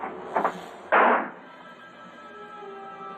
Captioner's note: gunshot